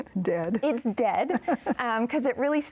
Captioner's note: chuckles